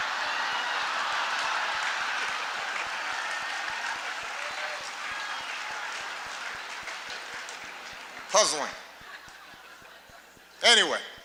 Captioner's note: laughter, applause